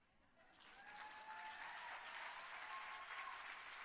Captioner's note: cheering